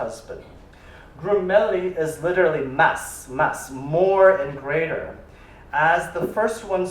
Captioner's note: spanish